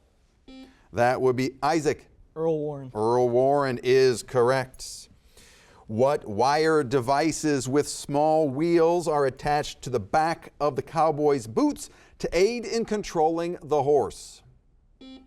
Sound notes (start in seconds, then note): 0.4 buzzer beeping